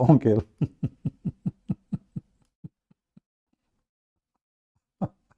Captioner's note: Ketawa